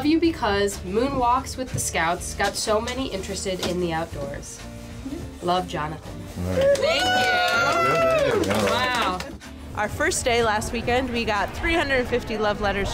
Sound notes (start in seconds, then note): 6.5 cheering